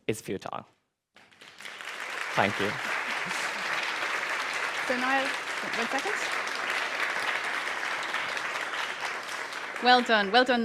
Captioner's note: applause